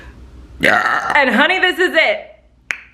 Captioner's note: belching